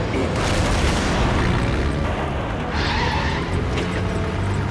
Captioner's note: explosion booms; tires screech